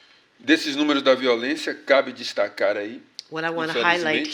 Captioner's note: speaking portuguese